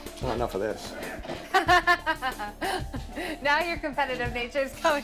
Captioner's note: laughs